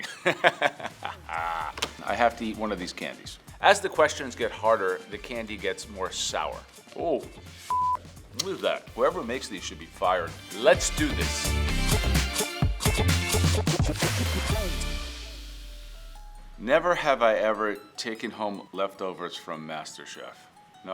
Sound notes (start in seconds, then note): 0.0 Joe laughs; 7.6 beep; 11.6 upbeat music